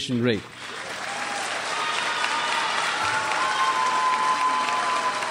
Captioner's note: crowd applauds and cheers